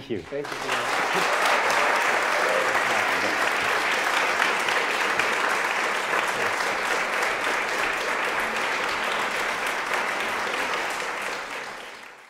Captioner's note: audience clapping